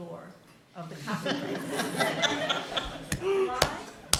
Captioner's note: laughter